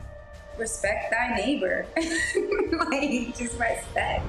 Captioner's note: laughs